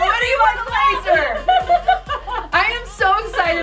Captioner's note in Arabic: يضحك